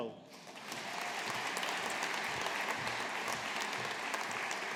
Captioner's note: audience applauding